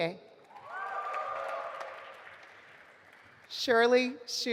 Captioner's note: audience applauding